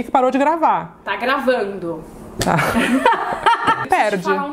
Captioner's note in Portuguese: risos